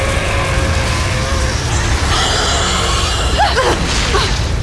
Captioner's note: growls; powerful blast-crackle; screeching roar; powerful whoosh-crackle; grunts